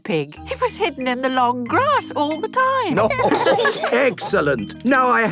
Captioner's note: laughter